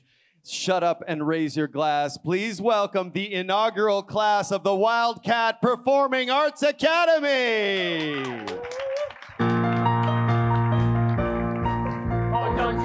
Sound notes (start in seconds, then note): 7.7 attendees applauding; 9.4 mellow piano music